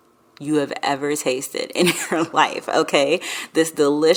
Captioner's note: laughs